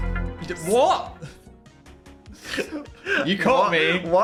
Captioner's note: laughs